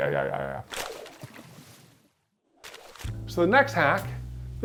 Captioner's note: paper rustling; relaxing music